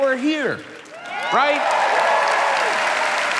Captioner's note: crowd cheering